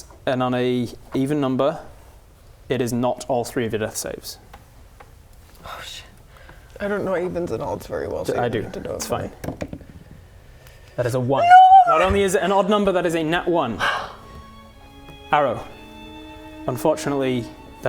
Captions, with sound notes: and on a even number it is not all three of your death saves Oh sh*t I don't know evens and odds very well I do It's fine That is a 1 NOOO! Not only is it an odd number that is a nat 1 *sigh* Arrow Unfortunately